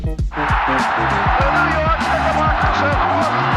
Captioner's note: upbeat music; crowd roars